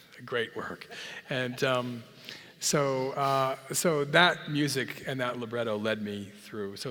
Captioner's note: laugh